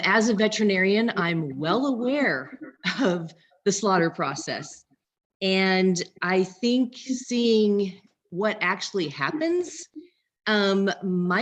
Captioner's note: laughs